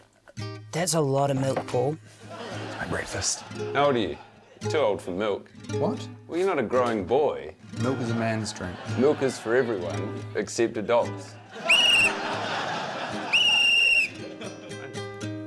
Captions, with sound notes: - That's a lotta milk, Paul. - It's my breakfast. - How old are you? Too old for milk. - What? - Well, you're not a growing boy. - Milk is a man's drink. - Milk is for everyone except adults. - (BLOWS WHISTLE) (BLOWS WHISTLE)